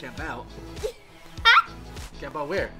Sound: laughing

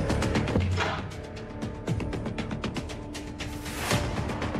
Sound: door opening

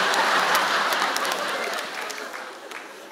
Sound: laughter

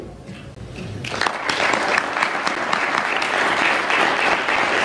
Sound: audience applauds

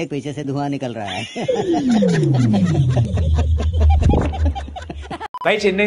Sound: laughter

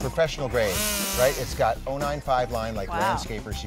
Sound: tool sound

